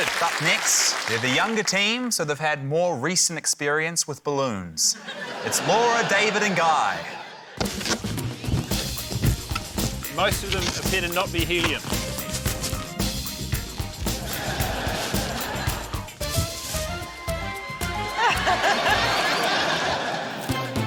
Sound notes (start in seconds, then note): 0.0 applause; 14.2 laughter; 18.1 laughter